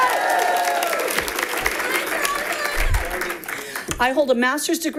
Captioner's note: audience applauding